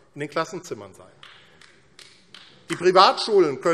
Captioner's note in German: Vereinzelter Beifall AfD